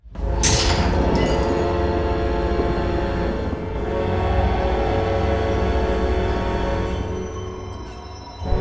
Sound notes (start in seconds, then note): 0.0 intense music; 0.4 glass shattering